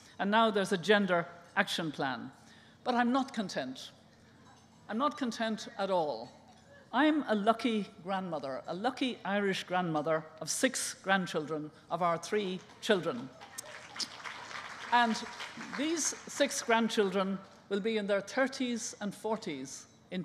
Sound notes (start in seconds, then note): 13.3 applause